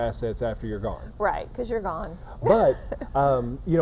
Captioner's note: laughing